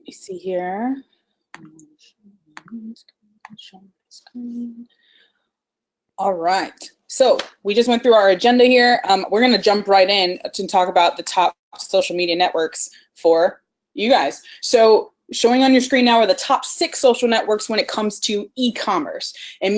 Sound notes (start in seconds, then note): 2.3 humming